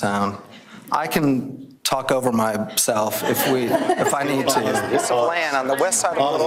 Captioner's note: everyone laughing